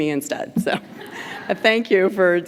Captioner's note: laughter